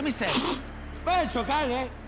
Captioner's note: spits